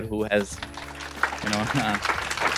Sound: crowd clapping

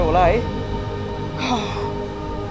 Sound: sigh

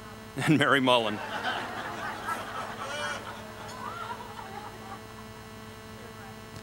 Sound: laughter

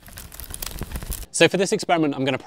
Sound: fire crackling

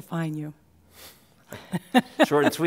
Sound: laughing

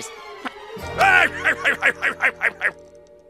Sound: sailor's laugh

